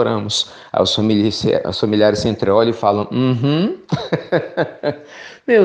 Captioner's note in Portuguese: risos